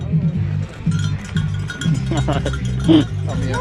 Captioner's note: laughter